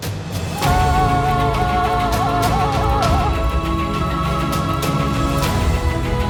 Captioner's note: dramatic instrumental music; yelling